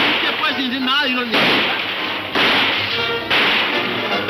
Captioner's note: Poncho yelling in Spanish; guns firing